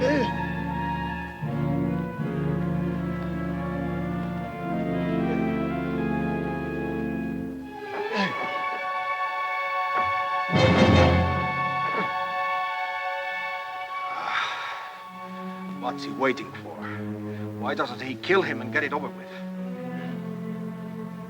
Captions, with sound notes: (Red Hawk grunts) (ominous music) (Ramirez sighs) - What's he waiting for? Why doesn't he kill him and get it over with?